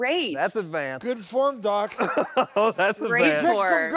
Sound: laughing

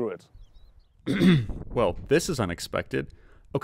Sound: clears throat

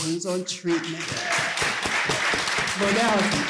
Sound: applause

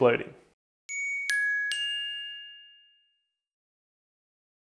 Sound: gently dinging bells

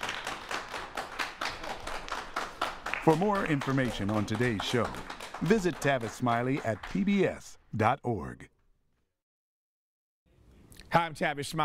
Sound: applause

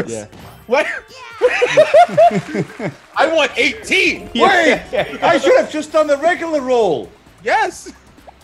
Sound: laugh

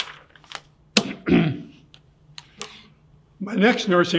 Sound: clears throat

